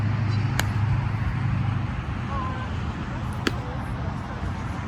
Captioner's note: plastic rackets thwack against tennis ball